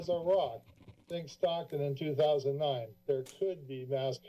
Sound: mic static

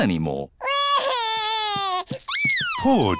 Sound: crying

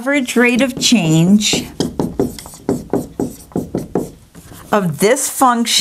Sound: sound of writing

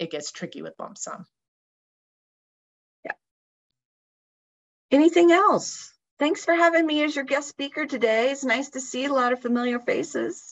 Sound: talking

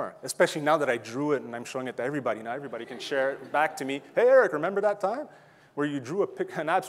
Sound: audience laughing

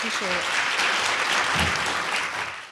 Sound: audience applauds

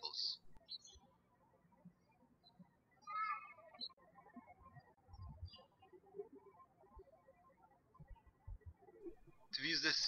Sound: birds chirping

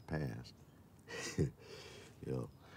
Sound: chuckles

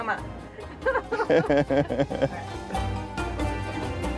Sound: laughter

